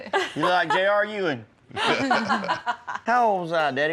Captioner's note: laughter